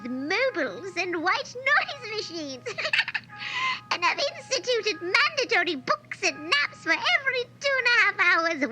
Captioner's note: giggles